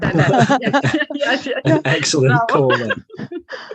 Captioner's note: laughing